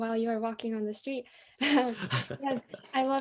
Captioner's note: laughter